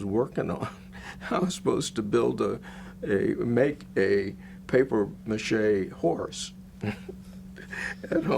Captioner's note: chuckles